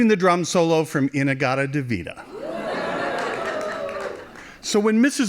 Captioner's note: cheering